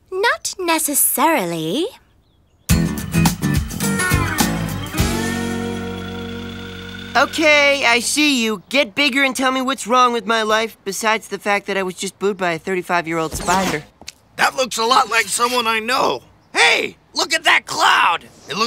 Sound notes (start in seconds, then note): none